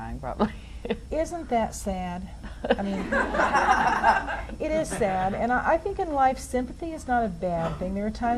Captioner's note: audience laughs